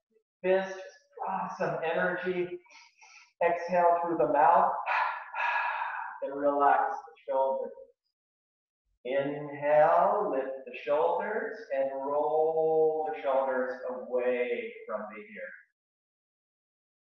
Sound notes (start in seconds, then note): 1.9 inhaling twice; 5.0 exhaling twice